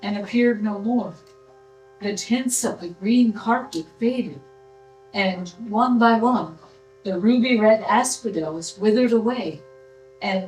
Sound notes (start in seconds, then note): none